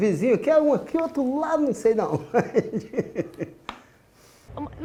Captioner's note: laughs